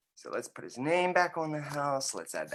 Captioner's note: none